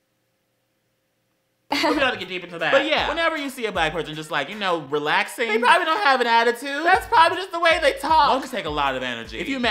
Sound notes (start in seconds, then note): 2.6 laughing transition